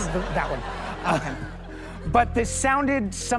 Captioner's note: laughter